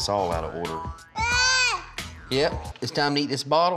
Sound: jabbering

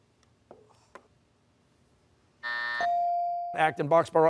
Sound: buzzer

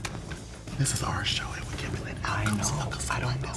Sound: whispers

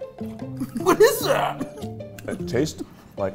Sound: chuckling

